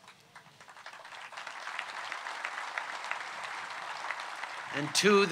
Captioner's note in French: Applaudissements